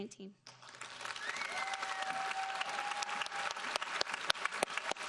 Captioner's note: audience applauding